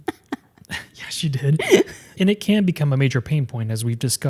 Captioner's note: laughing